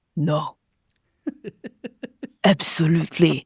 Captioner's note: laughs